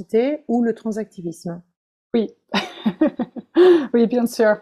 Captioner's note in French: rires